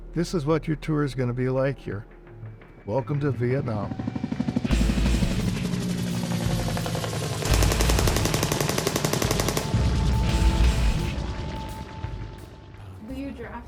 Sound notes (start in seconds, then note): 4.6 helicopter blades whirring; 7.4 weapon firing; 7.9 helicopter blades whirring